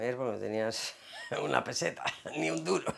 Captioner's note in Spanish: Ríe